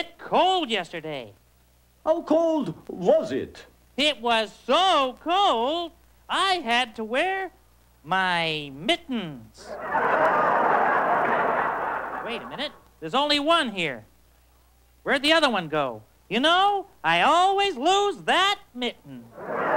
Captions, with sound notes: HOW COLD WAS IT? SO COLD, I HAD TO WEAR MITTENS. [LAUGHTER] THERE'S ONLY 1 HERE. I ALWAYS LOSE THAT MITTEN.